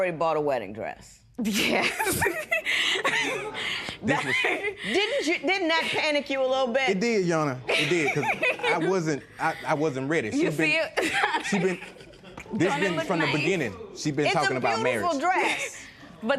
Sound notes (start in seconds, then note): 1.8 chuckling; 3.1 spectators murmur